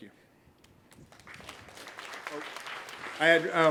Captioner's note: applause